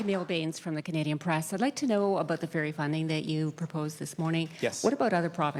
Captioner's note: applause